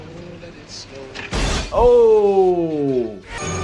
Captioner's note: glass breaking